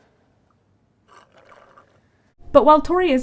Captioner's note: sips drink